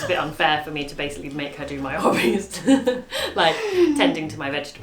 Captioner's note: laughs